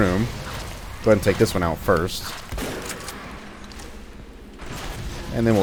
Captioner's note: boom, fwoosh fwoosh